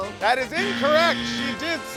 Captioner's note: buzz